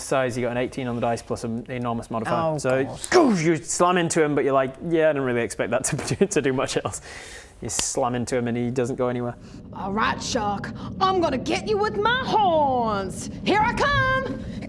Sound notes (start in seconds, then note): 2.6 goosh